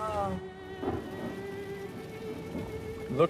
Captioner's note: thunder rumbling